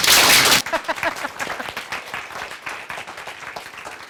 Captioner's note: audience clapping; laughing